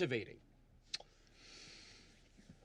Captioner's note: kisses